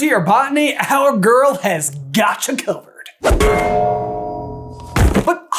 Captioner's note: thwang!